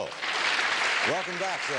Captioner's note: audience clapping